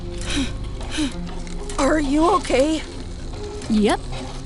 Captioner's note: Dunia grunts